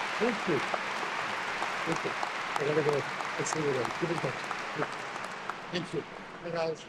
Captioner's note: speaks faintly